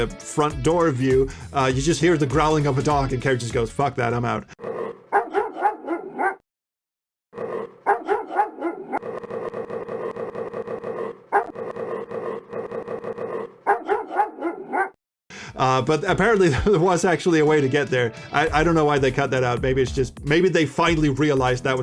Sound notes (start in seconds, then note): 5.5 dog growls; 9.2 dog growls in staccato